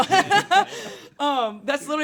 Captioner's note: laughing